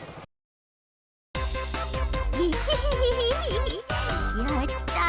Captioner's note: delusional giggling